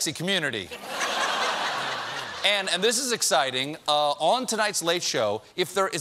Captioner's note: laughter